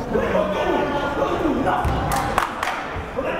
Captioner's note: yelling